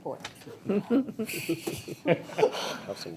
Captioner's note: people chuckle